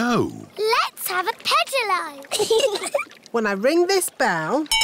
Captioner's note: giggling